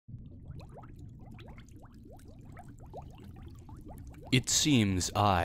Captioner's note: underwater bubbles and deep ocean ambience